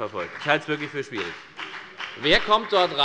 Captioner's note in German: Beifall bei der FDP